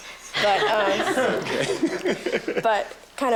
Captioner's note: students laughing